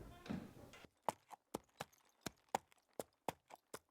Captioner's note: hooves clop